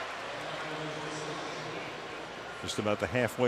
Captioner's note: pa announcement